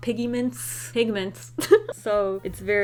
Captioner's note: giggles